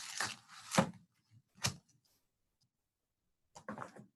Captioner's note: silence